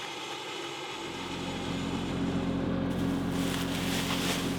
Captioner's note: plane engine rumbling